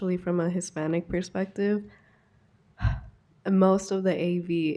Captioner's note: sharp sigh